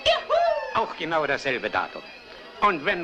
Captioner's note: whooping